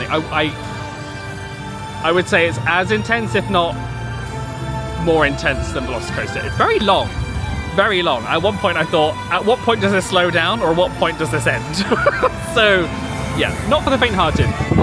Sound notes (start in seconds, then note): 11.6 laughing